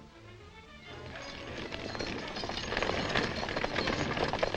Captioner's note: horses galloping